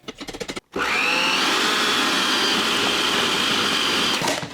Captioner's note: machine whirring